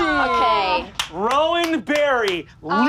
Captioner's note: claps